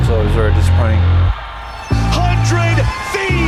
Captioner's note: crowd cheering